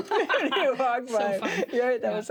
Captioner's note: both laugh